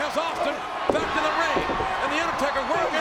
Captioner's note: audience cheers